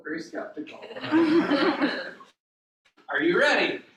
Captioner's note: laughter